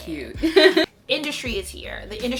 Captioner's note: laughs